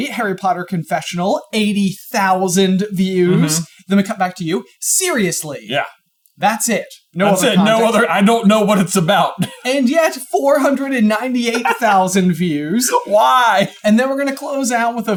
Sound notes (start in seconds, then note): 11.2 chuckling